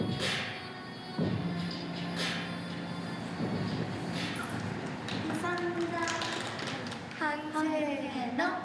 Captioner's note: speaking Japanese